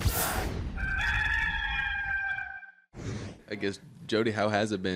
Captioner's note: rooster crows